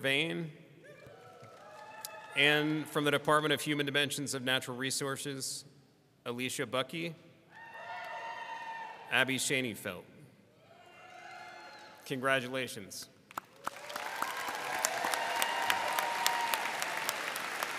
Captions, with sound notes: Juniper Vane. (people cheering) And from the Department of Human Dimensions of Natural Resources. Alisha Butki. (people cheering) Abbey Shaneyfelt. (people cheering) Congratulations. (audience cheering and applauding)